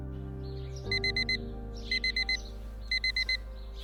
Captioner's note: alarm beeping